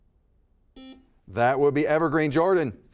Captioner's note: buzzer beeping